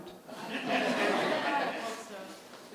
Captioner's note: audience laughing